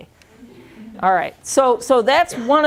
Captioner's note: chuckling